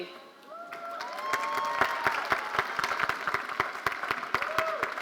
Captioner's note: audience applauding